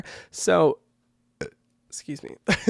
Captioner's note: burps